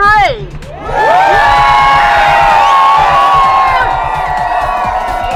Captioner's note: crowd cheers